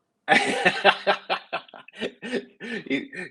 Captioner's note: laughing